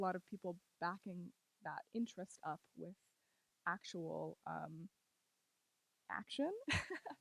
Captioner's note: laughs